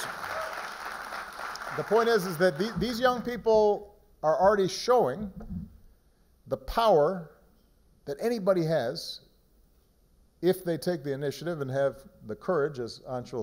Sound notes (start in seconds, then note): 3.0 applause